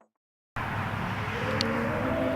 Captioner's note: wind howls